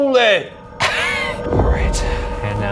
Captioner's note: chuckling